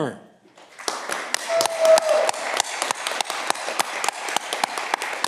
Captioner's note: audience clapping